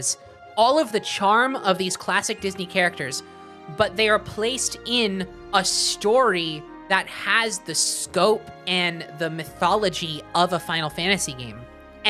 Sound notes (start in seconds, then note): none